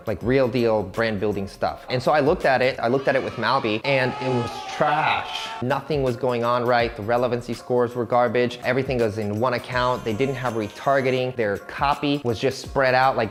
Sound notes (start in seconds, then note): 2.8 children cheering; 2.8 crowd yelling